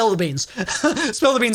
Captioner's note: laughs